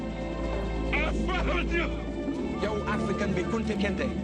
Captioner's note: laughs; foreign language